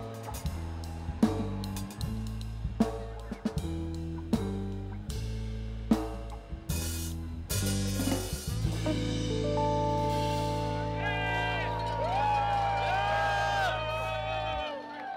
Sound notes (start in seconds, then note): 9.6 music fades; 10.4 cheering continues